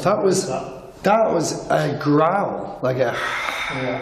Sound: hisses

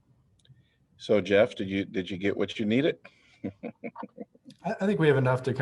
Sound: laughter

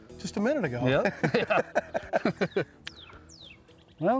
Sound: both laughing

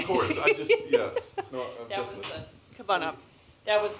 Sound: laugh

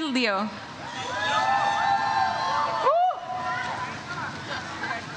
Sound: audience cheers

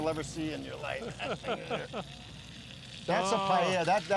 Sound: laughs

